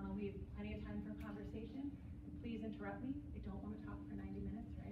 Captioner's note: none